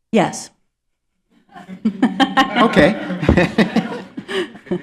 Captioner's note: laughter